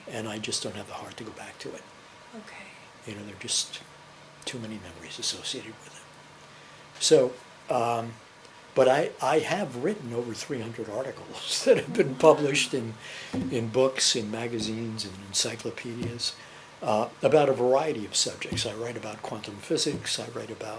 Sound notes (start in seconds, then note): 11.7 laughs